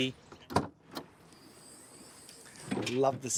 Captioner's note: door clicks